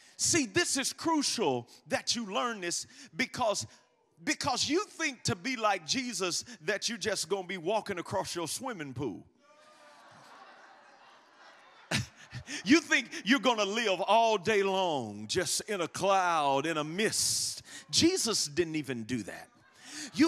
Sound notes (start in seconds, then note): 9.5 congregation laughs